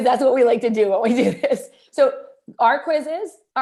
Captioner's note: laughter